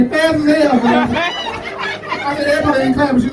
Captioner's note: audience laughing